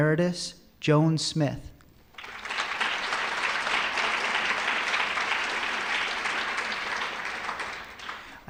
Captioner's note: applause